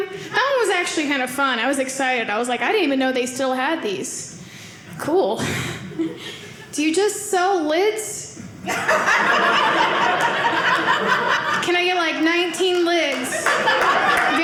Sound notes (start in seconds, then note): 8.6 audience laughing